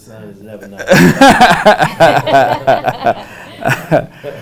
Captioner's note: laughter